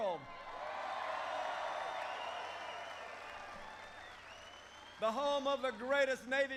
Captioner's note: applause